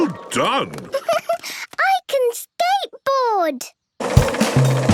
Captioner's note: giggles